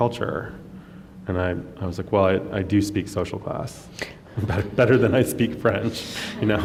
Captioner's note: laughs